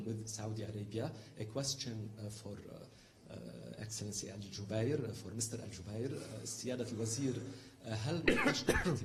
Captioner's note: in Arabic